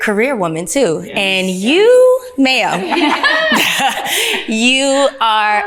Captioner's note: ladies laughing